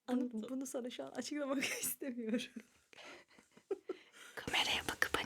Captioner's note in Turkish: kahkaha